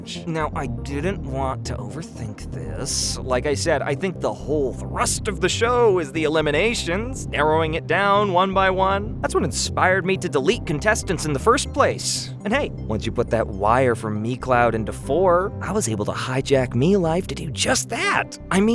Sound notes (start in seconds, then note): none